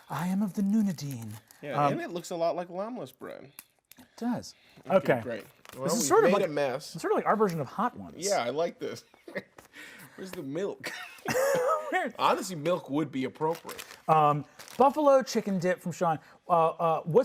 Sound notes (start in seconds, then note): 9.7 laughs; 10.9 laughing